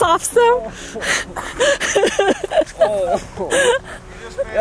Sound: laughing

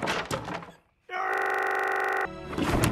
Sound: glitched moan of anger

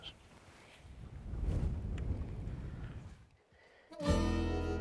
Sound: wind blowing; country music

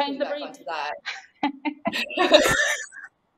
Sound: laughing

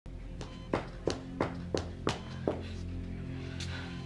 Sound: footsteps

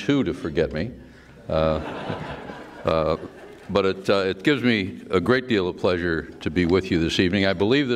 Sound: laughter

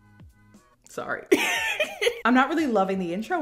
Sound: laughs

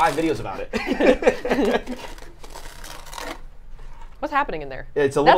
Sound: both laughing

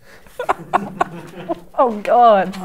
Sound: laughs

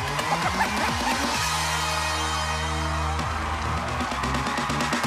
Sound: cheers and applause

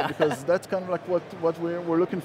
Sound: chuckles softly

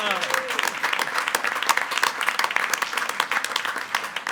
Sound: attendees applauding

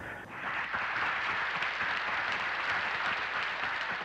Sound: crowd applauds

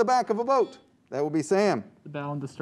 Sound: chime

